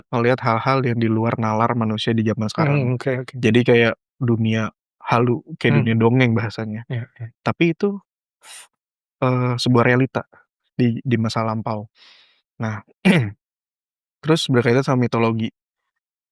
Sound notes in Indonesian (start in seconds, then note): 13.0 berdehem